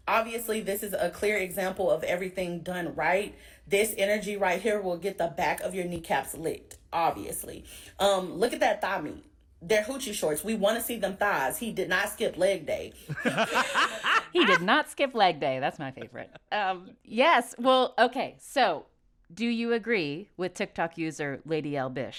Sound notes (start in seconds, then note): 13.0 laughter